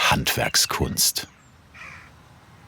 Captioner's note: birdsong